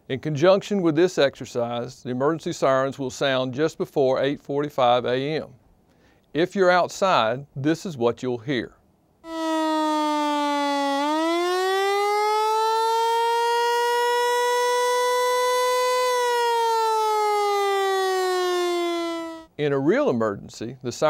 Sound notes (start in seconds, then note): 11.7 audio of siren